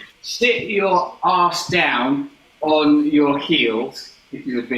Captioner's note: none